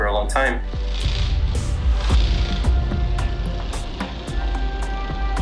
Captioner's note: insect buzzing